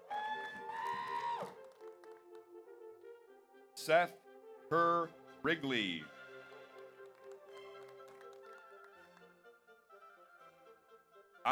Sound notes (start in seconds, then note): 0.0 audience cheers; 0.0 audience applauds; 6.4 audience applauds